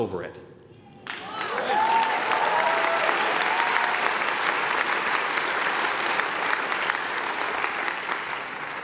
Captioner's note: applause